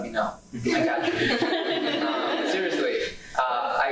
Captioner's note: laughing